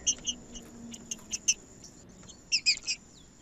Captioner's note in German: trinca ferro cantando